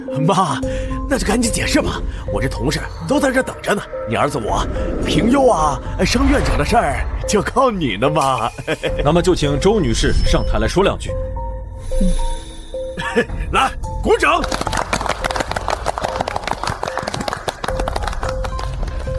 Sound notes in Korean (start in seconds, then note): 14.4 박수